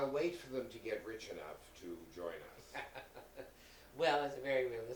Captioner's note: laughing